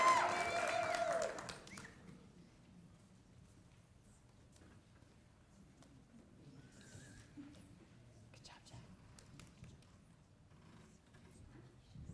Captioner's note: applause